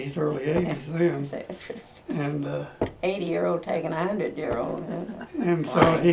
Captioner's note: laughs